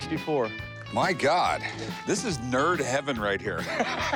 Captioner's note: laughs